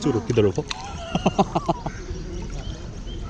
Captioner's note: laughing